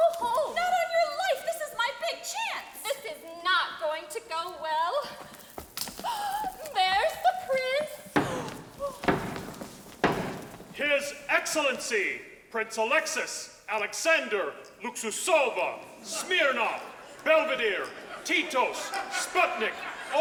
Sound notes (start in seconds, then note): 6.0 Sally gasping; 7.8 steady tapping